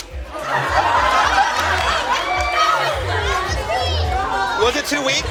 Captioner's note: laughter